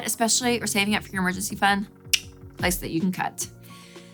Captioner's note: click